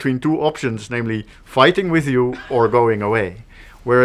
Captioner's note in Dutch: lach